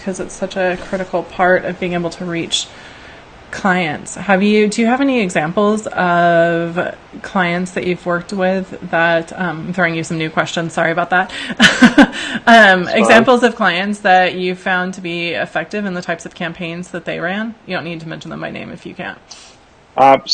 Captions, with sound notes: 'cause it's such a critical part of being able to reach clients. Do you have any examples of clients that you've worked with that, I'm throwing you some new questions. Sorry about that. (laughs) - It's fine. - Examples of clients that you've found to be effective in the types of campaigns that they ran? You don't need to mention them by name if you can't.